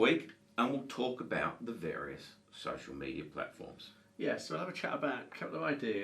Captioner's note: none